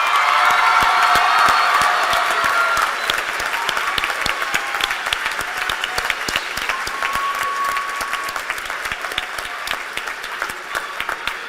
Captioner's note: cheers and applause